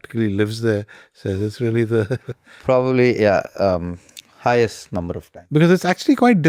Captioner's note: chuckles